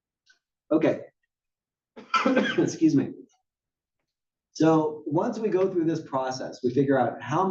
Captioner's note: cough